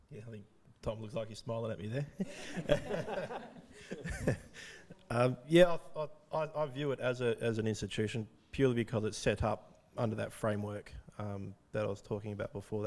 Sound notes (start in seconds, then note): 2.2 audience laughing